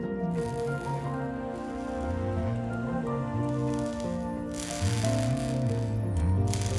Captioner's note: humming